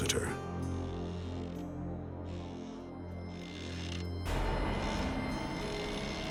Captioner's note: eerie music; chair creaking